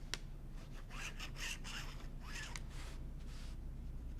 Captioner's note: nib scratching